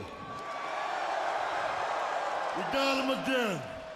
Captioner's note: crowd cheers